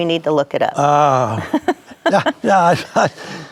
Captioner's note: laughs